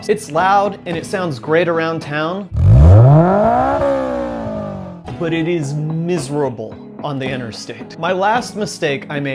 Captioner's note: loud exhaust sounds